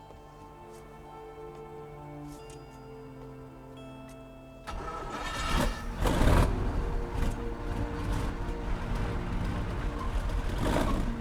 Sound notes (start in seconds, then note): 4.6 engine rumbling